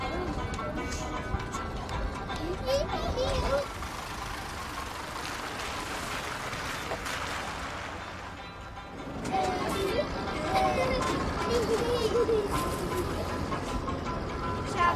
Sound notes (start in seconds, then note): 9.1 kids playing, laughing